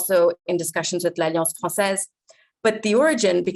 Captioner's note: speaking french